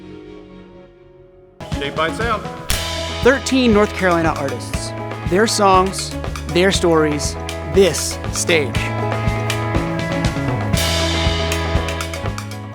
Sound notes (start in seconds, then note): 2.6 clapperboard clanks; 9.3 bright music